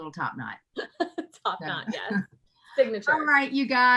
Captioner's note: giggling